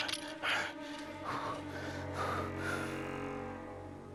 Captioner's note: exhales deeply